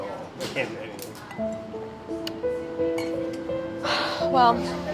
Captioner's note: sighing; sad music